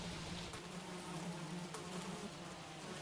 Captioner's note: flies buzzing